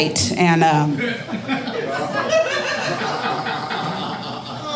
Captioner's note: audience laughing